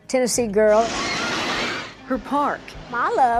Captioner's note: roller coaster rattling